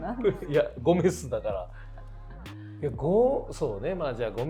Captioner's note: laughs; laughs